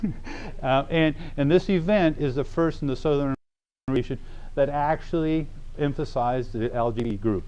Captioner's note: laughter